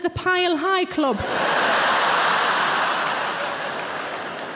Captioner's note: audience laughing